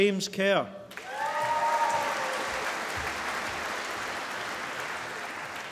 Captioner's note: applause